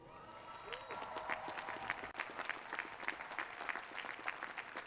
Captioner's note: applause